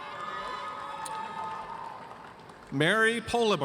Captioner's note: audience cheers